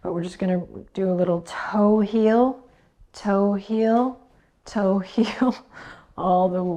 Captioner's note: chuckles